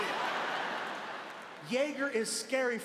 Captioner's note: audience laughing